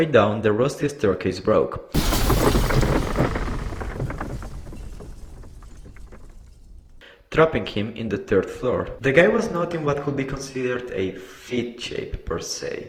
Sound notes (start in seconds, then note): 1.9 sound of stairs breaking